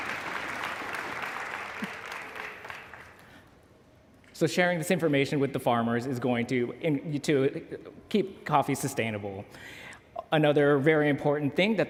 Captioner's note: applause